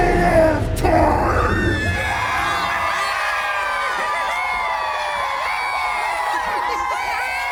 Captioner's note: Kobolds cheer